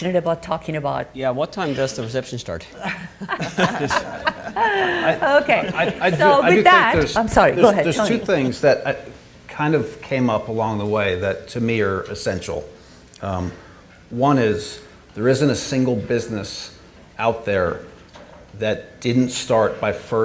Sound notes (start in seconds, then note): 2.7 all laughing